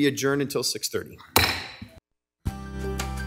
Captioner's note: mallet thudding; lively music